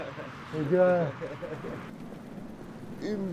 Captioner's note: chuckling